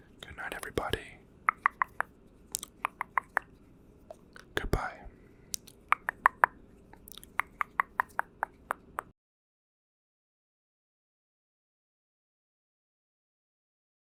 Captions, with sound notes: Goodnight everybody *tongue clicking* Goodbye <3 *tongue clicking*